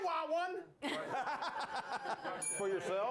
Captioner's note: laughter; bell rings